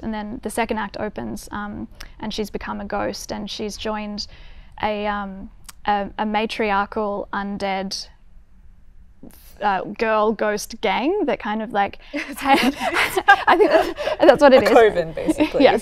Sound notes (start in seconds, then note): 12.2 laughing